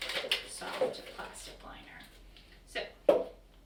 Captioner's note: crinkling; knock